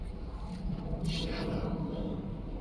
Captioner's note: whispering